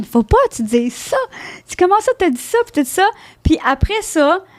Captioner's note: in french